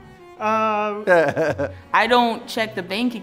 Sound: laughing

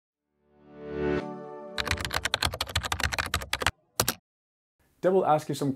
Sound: sounds of typing

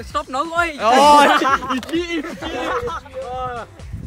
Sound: laughs

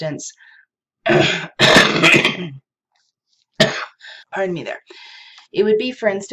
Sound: coughs

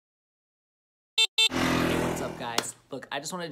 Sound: motorbike honking; motorbike engine roaring

